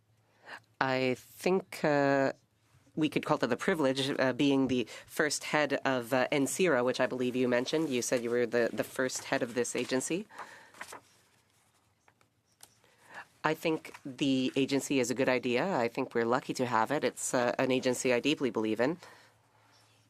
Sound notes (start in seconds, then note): 1.2 speaking French